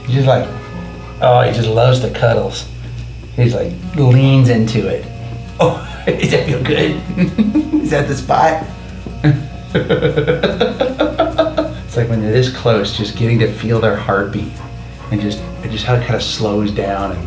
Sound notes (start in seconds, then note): 5.6 laughs; 9.0 laughing